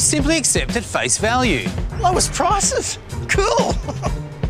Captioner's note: chuckles